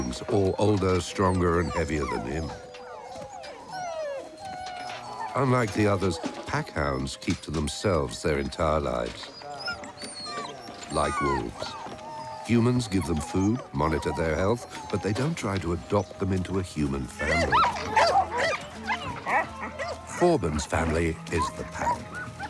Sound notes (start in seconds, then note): 17.2 yelping